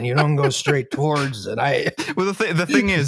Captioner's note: laughs